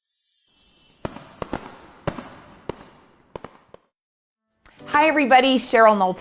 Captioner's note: fireworks crackling